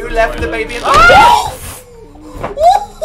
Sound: both scream

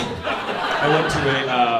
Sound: audience laughing

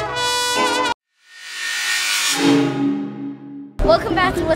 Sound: saw blade

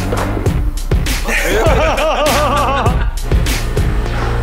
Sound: laughing; gentle music

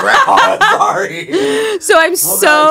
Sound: both laughing

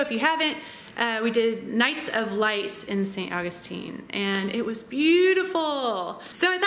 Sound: none

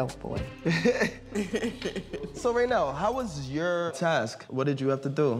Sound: chuckles

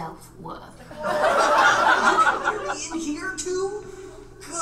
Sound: audience laughs

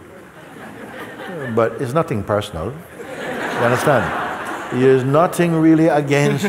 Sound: laughter; laughter

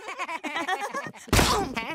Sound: laughing; loud bang

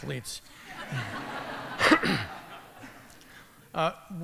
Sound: laughter

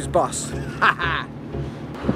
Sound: laughing

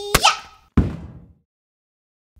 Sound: thud!

